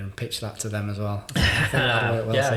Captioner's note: laughing